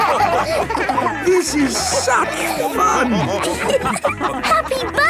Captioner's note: dance party music; laughing